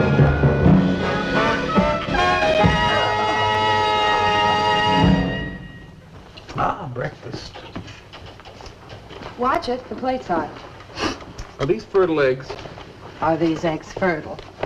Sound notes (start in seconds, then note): 2.1 doorbell Rings